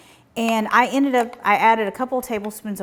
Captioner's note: spoon clanking